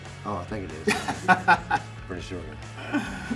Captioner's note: laugh